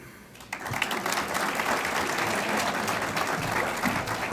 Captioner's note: audience applauds